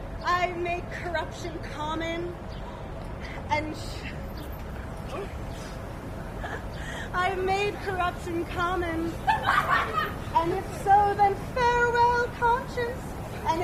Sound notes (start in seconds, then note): 9.2 laughter